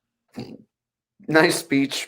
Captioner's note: Daryl sniggers